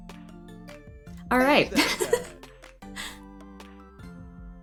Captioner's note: laughs